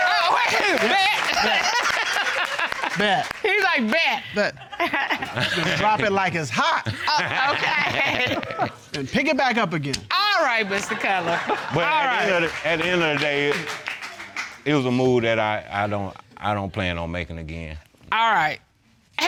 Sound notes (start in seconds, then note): 6.9 chuckling